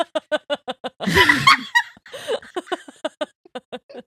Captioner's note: laughing